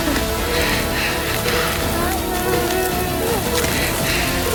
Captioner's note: freezing sound and groaning